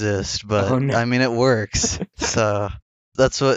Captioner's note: laughs